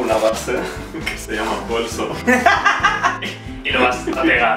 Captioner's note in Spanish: risas